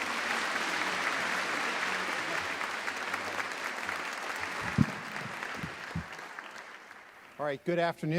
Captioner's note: applause